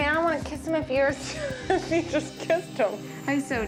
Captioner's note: laughing